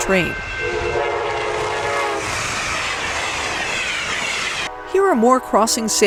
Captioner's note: train roaring